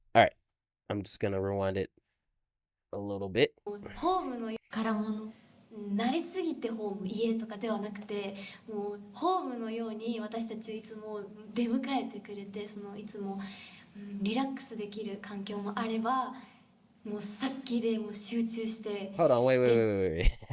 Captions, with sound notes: All right. I'm just going to rewind it a little bit. [speaking Japanese] Hold on, wait, wait, wait, wait, wait.